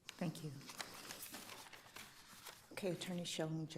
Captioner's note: paper crumpling